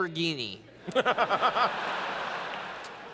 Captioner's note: laughter